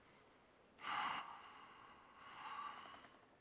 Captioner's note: sighs deeply